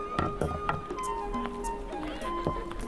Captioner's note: footsteps